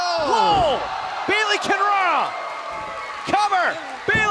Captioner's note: cheers & applause